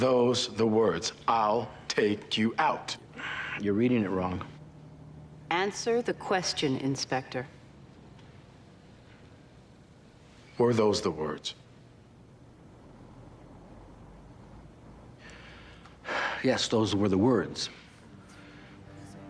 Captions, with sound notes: - Were those the words? "I'll take you out"? - You're reading it wrong. - Answer the question, Inspector. - Were those the words? - (sighs) Yes, those were the words.